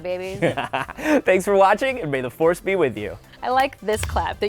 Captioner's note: laughs